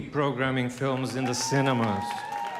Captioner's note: applause